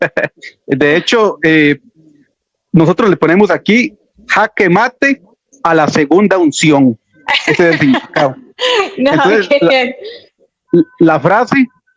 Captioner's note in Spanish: risas